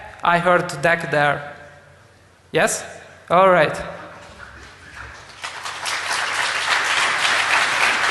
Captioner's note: applause